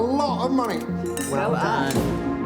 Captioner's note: glasses clink